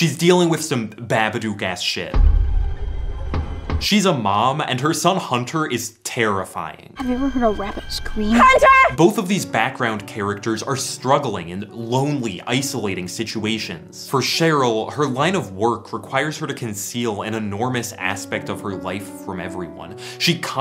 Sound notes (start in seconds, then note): 2.2 pounding